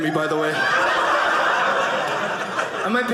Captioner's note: audience laughing